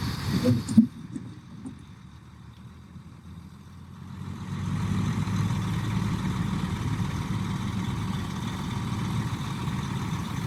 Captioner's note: engine noise; engine noise